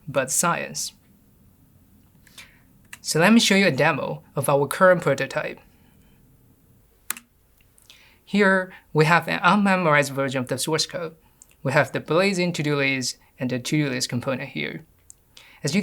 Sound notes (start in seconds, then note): 7.0 keyboard clicks